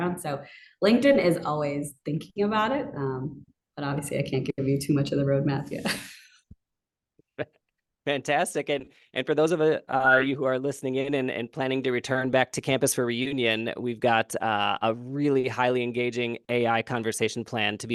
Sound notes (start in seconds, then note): 7.2 laughing